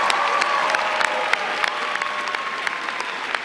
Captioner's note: applause